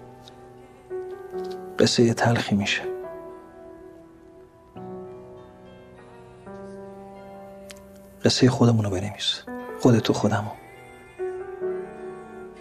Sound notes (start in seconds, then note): none